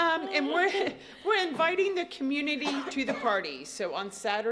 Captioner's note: laughter